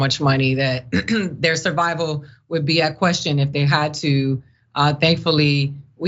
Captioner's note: cough